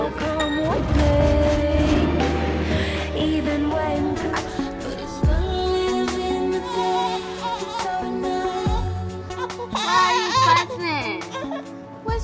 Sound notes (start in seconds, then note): 1.4 soft piano music; 4.5 chill R&B music; 6.3 crying